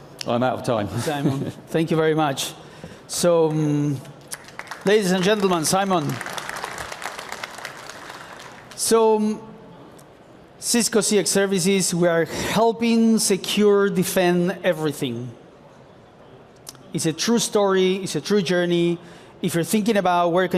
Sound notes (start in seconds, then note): 6.5 applause